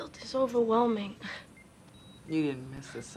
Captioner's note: scoffs